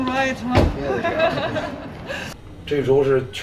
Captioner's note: laughs